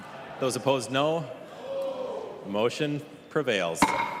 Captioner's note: chorus of ayes